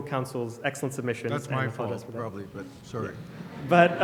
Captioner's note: voiceover